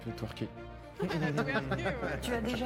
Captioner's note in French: rires